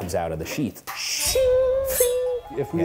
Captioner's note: imitating katana clinking